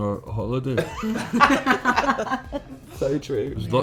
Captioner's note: laughing